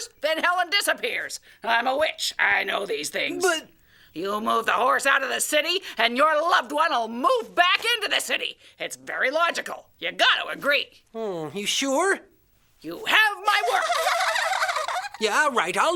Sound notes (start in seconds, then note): 13.6 giggling